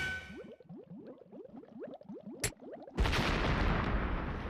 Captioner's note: none